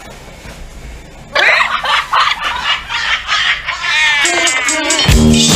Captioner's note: the girls burst out laughing